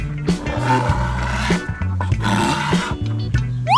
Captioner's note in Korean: 긁기